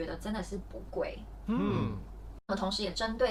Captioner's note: agreed sound